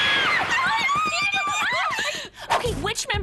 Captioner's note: chattering